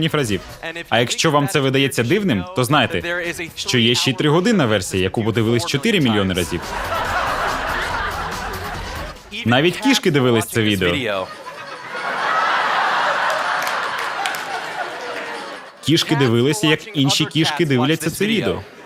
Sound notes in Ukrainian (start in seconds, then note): 6.0 Смех; 10.8 Сміх